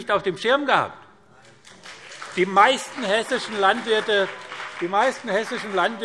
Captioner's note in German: Beifall BÜNDNIS 90/DIE GRÜNEN und vereinzelt CDU - Widerspruch Freie Demokraten